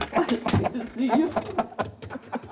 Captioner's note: laughing